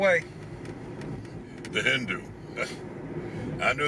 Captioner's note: scoffs